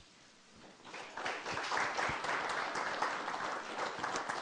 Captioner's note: applause